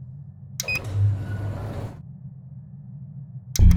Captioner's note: impotent click; beep!